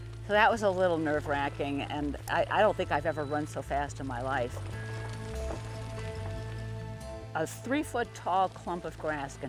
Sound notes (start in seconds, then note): 5.2 fire crackling; 5.2 upbeat, exciting music